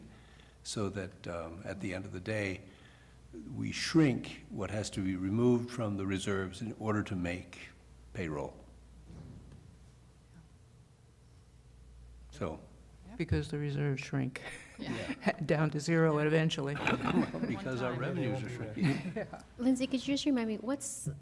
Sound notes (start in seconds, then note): 16.8 laughter